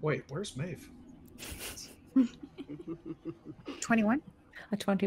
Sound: laughter

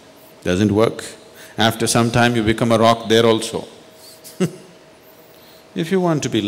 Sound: laughs

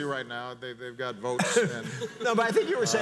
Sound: audience laughs

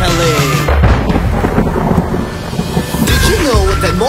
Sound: thunder clapping

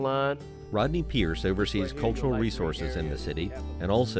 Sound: voiceover

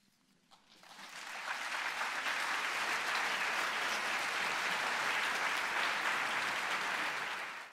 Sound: applause

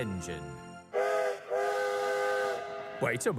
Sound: whistle sounds

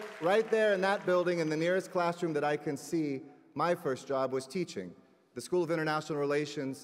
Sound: applause

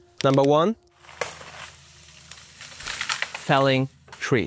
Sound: tress crackling

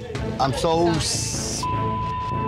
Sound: beep

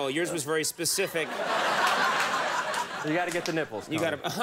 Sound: audience laughs

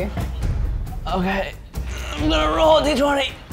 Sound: groaning

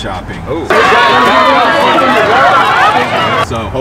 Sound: people shouting

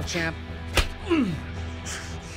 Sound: Casey grunting

